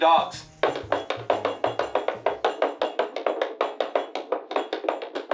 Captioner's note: running steps